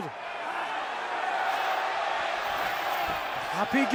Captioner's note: fans cheering